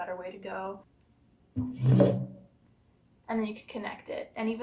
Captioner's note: speaker makes a noise to turn on